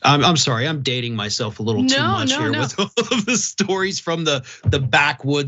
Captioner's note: laugh